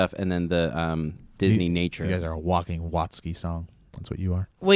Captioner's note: none